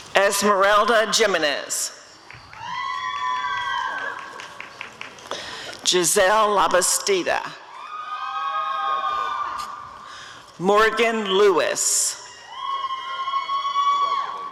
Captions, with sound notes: Esmerelda Jimenez [audience cheering] Gisselle Labastida [audience cheering] Morgan Lewis [audience cheering]